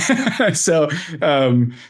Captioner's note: laughs